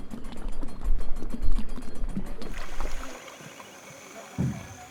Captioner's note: water splashing